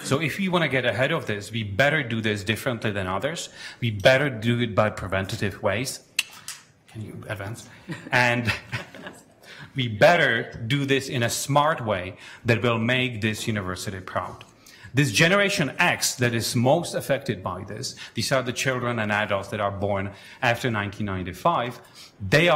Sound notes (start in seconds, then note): 7.7 chuckling